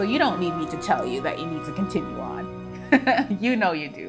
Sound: laughs joyfully

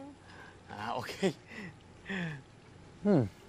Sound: chuckles

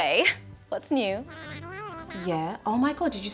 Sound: jabbering

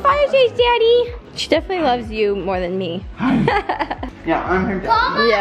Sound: laughs

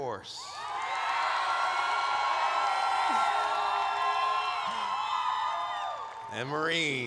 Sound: cheers

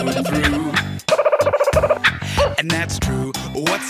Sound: bird singing

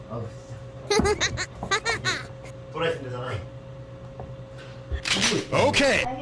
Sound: she's cracking up

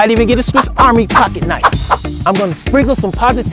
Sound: air swooshing

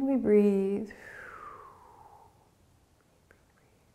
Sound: exhaling

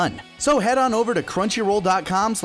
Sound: none

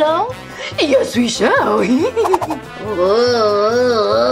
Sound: laughs

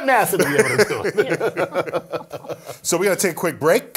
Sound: laugh

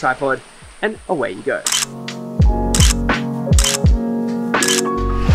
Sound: camera clicking

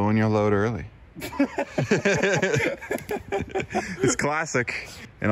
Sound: both laughing

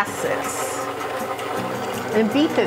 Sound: machine rumbling

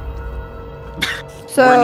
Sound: laughs

